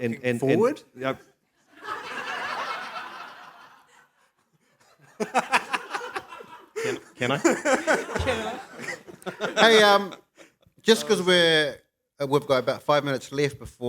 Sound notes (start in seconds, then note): 1.7 laughter